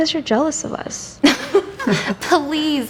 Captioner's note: laughs